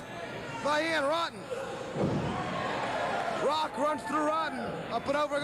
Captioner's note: cheers and applause